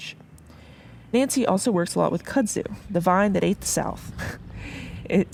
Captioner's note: laugh